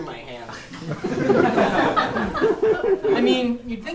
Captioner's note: audience laughing